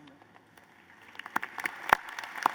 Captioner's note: applause